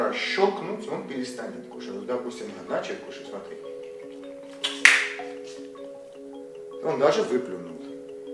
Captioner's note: finger click